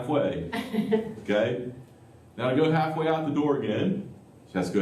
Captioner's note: laughter